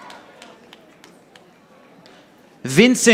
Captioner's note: audience applauding